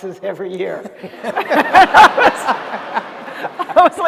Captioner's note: laughter